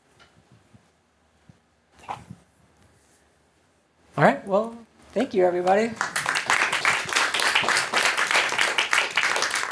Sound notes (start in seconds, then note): 5.6 applause